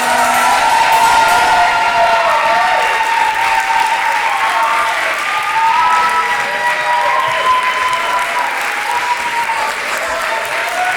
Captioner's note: massive cheering